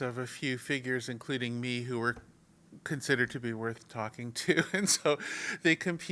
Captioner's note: laugh